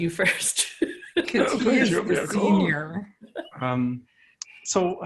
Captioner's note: laughter